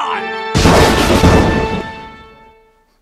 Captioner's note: lightning strike